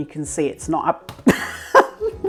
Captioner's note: splat; laughs